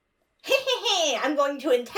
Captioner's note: laughs wickedly